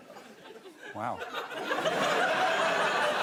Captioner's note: laughter